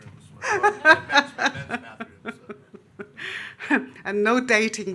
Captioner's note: laughing